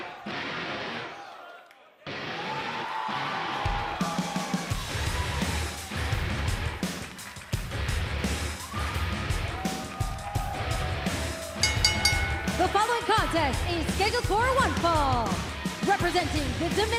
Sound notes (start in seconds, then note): 4.0 cheers and applause; 11.6 bell ringing